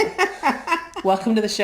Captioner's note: laughs